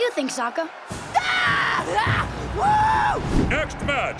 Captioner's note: cheering